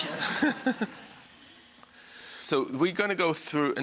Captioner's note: audience laughs